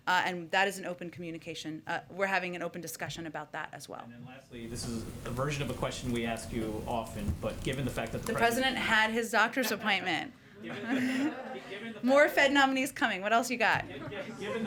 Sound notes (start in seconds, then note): 10.6 laughter; 13.8 laughter